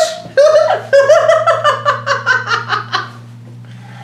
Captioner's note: laughing